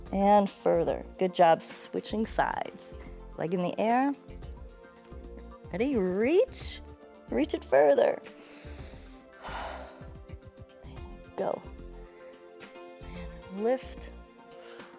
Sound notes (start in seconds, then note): 8.3 inhales and exhales